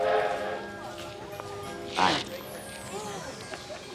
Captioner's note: train horn tooting